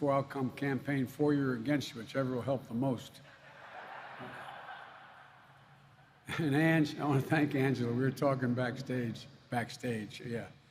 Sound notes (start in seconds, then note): 3.2 laughter